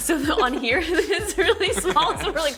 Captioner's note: laughs